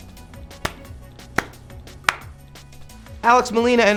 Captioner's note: claps